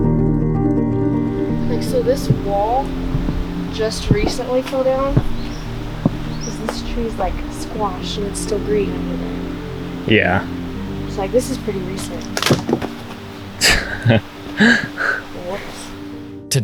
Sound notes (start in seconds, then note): 12.5 wood snaps; 13.6 laughs